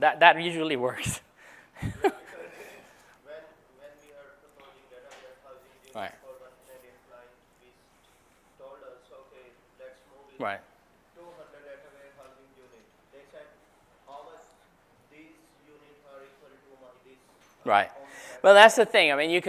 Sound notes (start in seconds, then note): 1.7 laugh